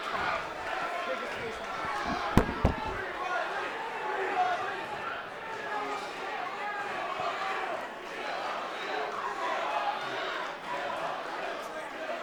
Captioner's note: crowd chanting